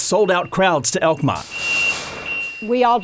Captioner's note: shuttle beeping